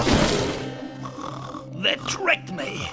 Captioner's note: witch snoring